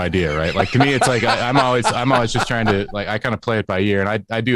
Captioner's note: laughter